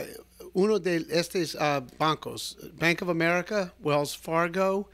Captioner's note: Hablando ingl\s